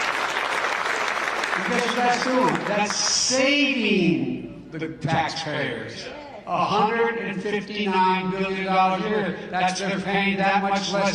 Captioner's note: applause